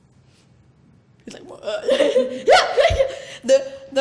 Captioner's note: laughs